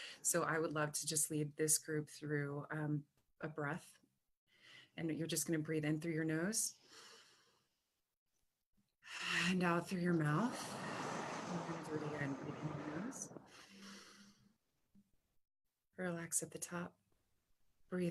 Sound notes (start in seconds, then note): 7.1 inhales; 10.3 exhales; 13.4 inhales